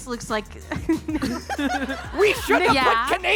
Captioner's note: audience laughing